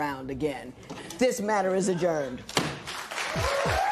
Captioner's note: laughter; raucous cheering and applause